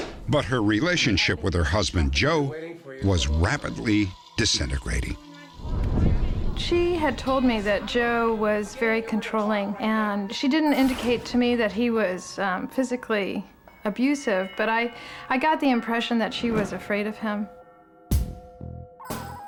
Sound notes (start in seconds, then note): none